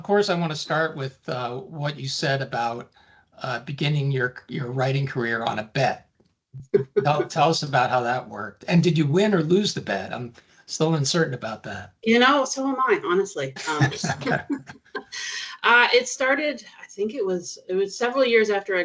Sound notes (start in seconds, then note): 6.7 chuckling; 13.6 chuckling